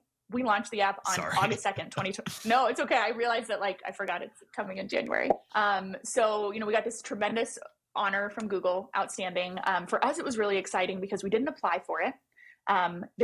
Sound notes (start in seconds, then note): 1.0 laughs